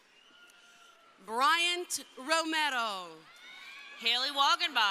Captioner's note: crowd cheering